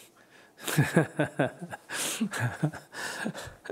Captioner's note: Sunim laughter